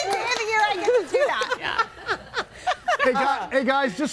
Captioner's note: everybody laughing